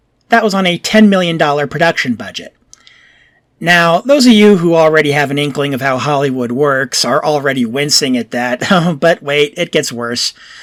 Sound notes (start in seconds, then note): 8.6 chuckles